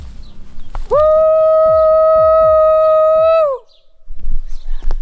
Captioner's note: howls